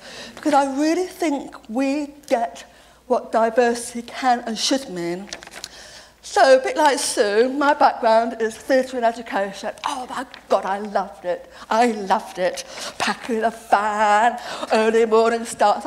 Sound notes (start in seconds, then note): none